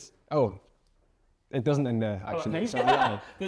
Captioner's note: laughs